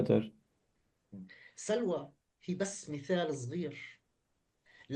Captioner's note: speaking arabic